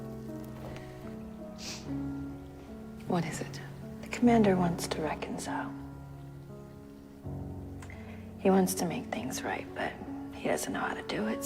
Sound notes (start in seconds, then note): 3.1 voiceover